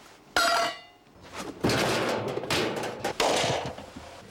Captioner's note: clank